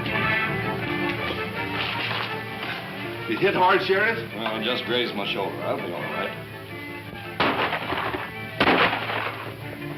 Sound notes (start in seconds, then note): 7.0 gunshots